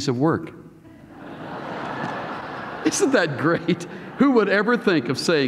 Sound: laughter

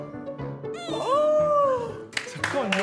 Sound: shriek♥

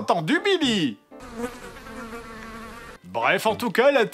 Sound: flies sound

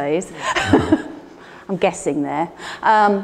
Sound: Ruth laughs

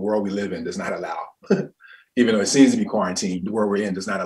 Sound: laughs loudly

